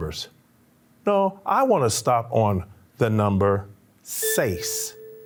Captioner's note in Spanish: habla español